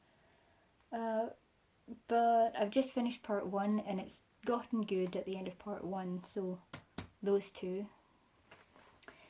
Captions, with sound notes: Uh... But I've just finished part one. And it's gotten good at the end of part one, so, [pats books] those two.